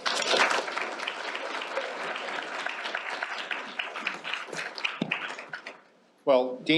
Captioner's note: applause